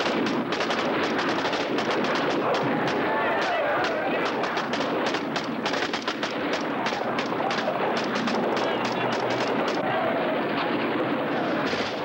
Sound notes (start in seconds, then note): 5.7 shouting over gunfire